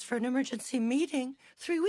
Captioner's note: speaking French